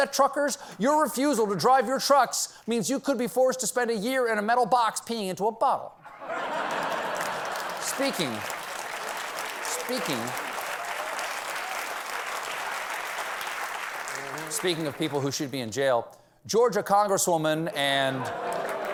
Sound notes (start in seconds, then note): 6.0 laughter